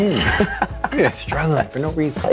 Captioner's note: laughing